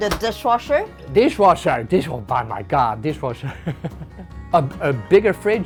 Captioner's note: laughs